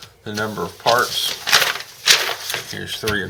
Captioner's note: paper flipping